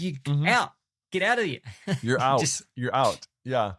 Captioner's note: chuckles